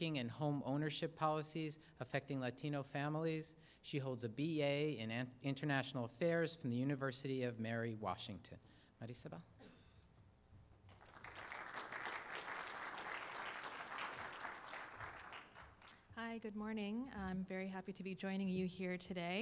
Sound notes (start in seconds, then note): 10.8 applause